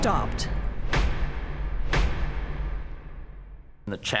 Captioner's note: object thuds